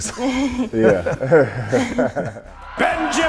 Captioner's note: chuckling; laughing